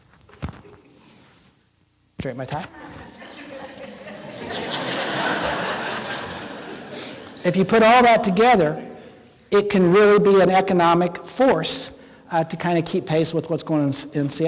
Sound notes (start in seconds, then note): 2.7 laughing continues